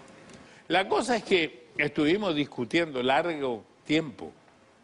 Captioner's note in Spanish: none